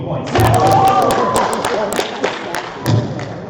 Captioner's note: applause